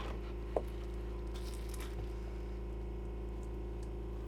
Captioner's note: wood clattering